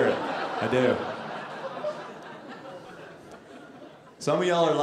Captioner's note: audience laughing